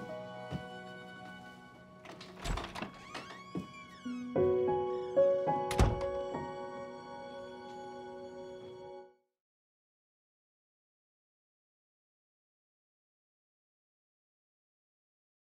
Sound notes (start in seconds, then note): 2.0 door creaks; 5.4 door closes